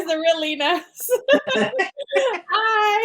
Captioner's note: all laughing